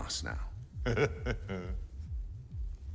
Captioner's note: chuckles